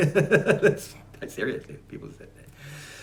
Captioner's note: laughs